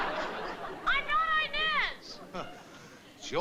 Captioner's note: on phone